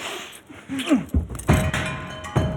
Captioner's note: Adrian grunting; chaotic music